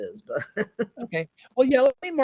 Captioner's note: laughs